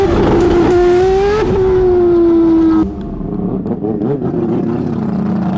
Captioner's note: race car revving continues